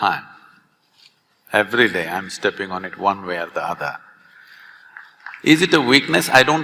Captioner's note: few applaud